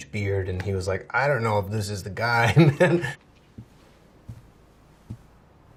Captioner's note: laughing